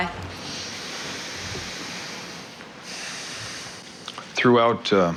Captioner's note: deep inhale and exhale